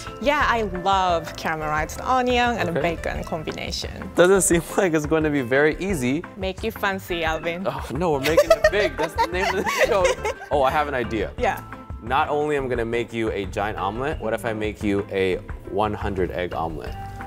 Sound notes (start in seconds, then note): 8.2 giggles